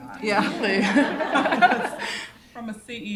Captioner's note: laughter